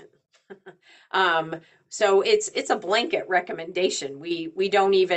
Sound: chuckles

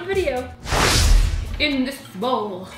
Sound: slide swooshing

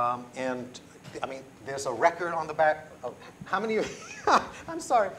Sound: laughs

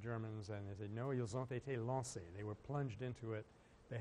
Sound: French

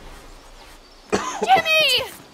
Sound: coughing

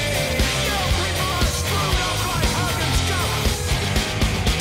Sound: shouting continues

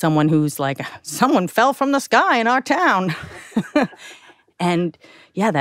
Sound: chuckles

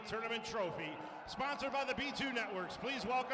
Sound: cheering

